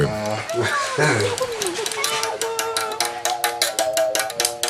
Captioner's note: foreign language